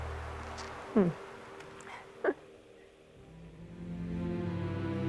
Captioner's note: chuckles; slow sombre music